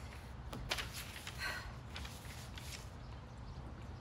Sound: sighs

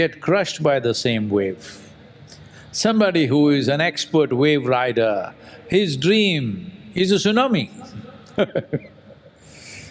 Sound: laughs

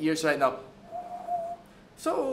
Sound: windy noise

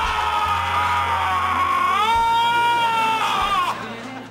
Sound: screaming

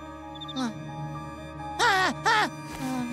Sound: mutters fitfully; yells

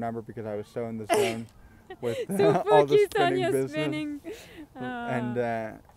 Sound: laughs

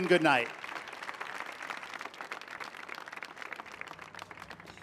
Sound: audience applauding

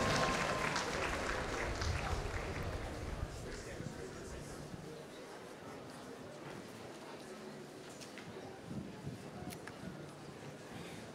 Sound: applause

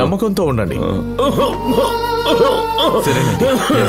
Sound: coughs

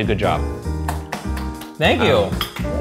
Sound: clapping

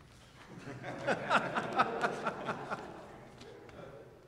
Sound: all laugh

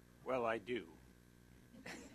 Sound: laughter

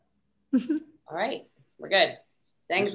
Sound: chuckles

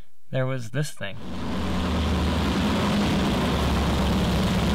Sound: car engine roaring

